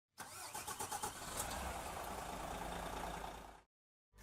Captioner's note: engine starting